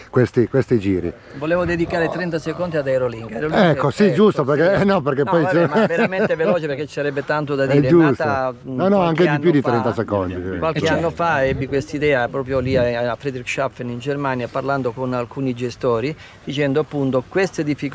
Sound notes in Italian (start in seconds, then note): 5.3 risate